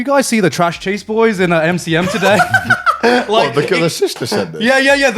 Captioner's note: all laughing